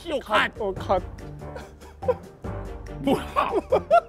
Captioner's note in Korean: ㅋㅋㅋㅋㅋㅋㅋㅋㅋㅋ